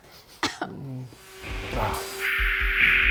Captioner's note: coughing; intense rock music; laughing